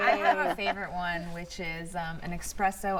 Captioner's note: laughter